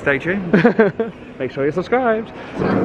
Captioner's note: laughing